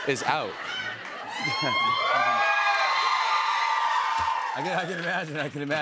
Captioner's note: cheers and applause